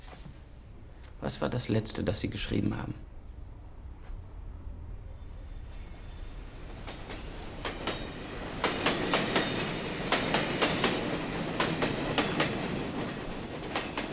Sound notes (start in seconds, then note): 4.6 train rattling on rails